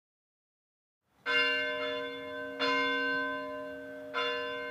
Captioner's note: bell ringing